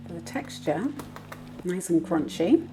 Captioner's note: taps